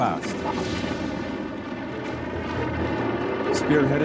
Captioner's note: tanks rattling